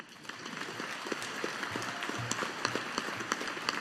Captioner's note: audience applauding